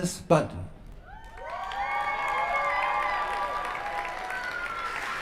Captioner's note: applause